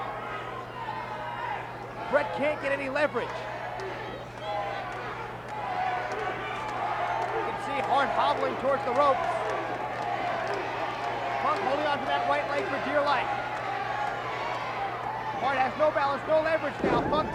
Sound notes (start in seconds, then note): 0.3 applause; 9.5 applause